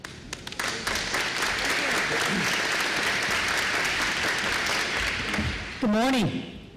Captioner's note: applause